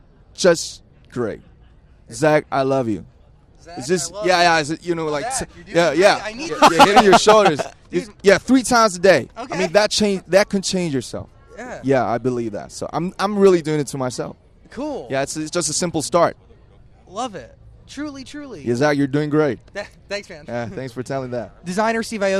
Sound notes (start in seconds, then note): 3.9 repeats, everyone giggles/smiles; 6.3 laughs like the angel he is